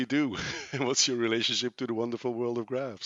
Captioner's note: laughs